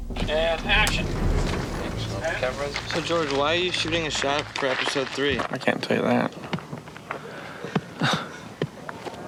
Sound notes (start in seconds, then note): 7.9 chuckles